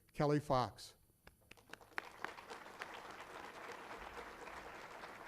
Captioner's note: applause